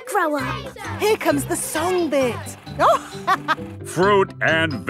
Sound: chuckling

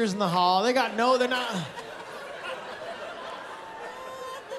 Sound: laughter

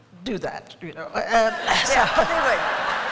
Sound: laughter

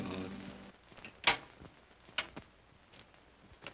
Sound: door opens

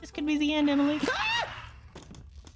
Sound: screams

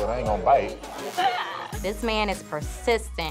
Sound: laughs

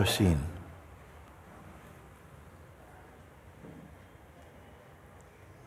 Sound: silence

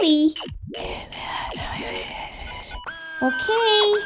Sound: whispering

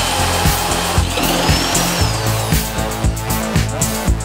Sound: drilling; gentle music

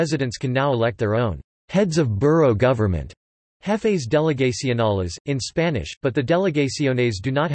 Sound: jefes delegacionales, in Spanish

